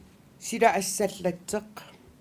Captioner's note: non-english speech